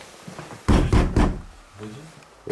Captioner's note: knocking